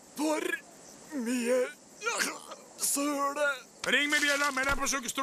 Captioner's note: coughs